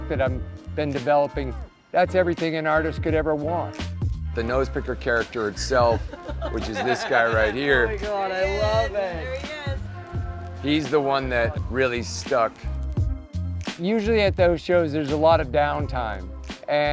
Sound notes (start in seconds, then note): 5.5 customer laughing